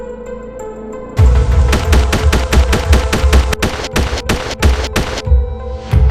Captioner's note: rapid Gunfire